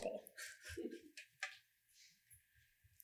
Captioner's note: quiet chuckling